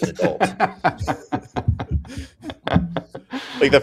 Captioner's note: laughter